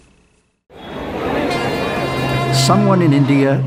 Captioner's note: people talking and train horn blowing